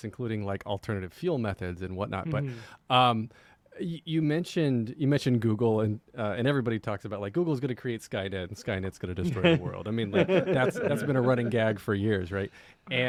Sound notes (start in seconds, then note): 10.0 laughter